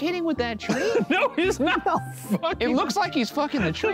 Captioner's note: laughs